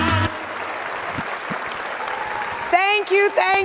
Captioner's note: audience applauding